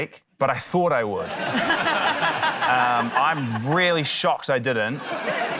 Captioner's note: laughter